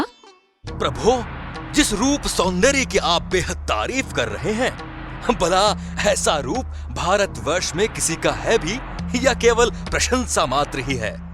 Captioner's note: in a taunting way